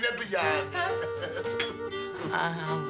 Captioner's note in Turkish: Gülerler